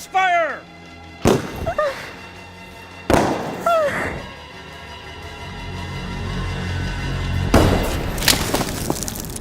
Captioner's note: explosions